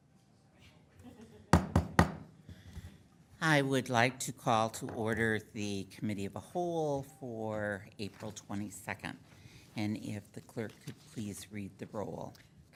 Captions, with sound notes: (gavel pounds three times) I would like to call to order the Committee of the Whole for April 22nd. And if the clerk could please read the roll.